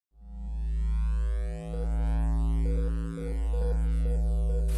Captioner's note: electricity buzzes